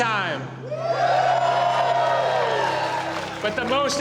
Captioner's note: all cheering